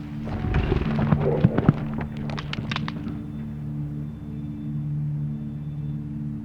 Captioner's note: moose grunts; footsteps thudding